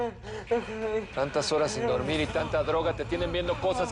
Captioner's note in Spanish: Quejidos